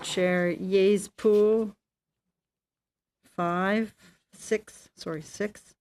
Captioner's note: speaking French